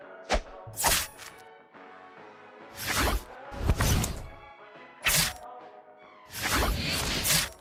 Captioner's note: sound of Being Sliced